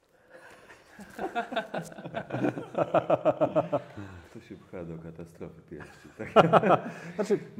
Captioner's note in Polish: śmiech